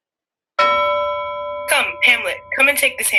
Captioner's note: bell tolls